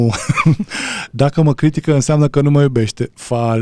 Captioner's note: laughter